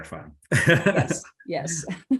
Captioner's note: laughs